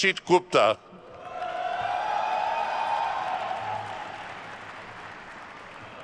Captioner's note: attendees cheering and applauding